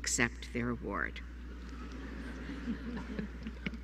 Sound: laughter

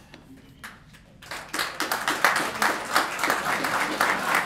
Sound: applause

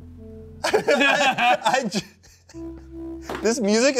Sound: soft, dramatic music; laugh

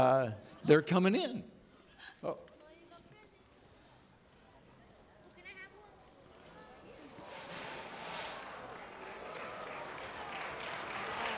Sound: audience clapping

